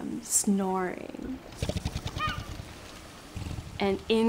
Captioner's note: seals snoring